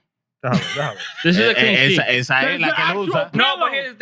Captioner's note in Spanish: Hablando en idioma extranjero